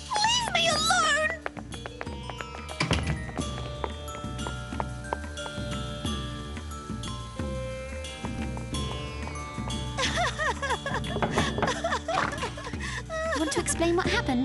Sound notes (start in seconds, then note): 0.8 door slam; 9.5 crying; 11.1 knock; 12.0 door opening